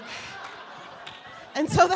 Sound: laughing

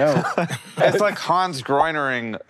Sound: laughs

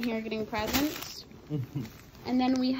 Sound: laughs

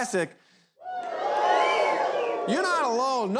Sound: crowd whoops

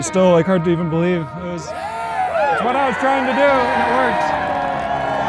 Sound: crowd cheering

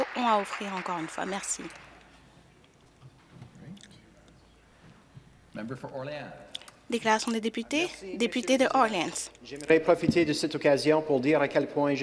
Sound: some Applause

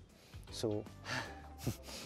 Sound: breathes out

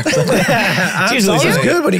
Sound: all laughing

